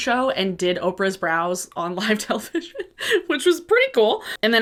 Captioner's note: laughs